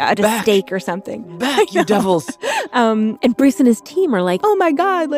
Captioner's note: laughs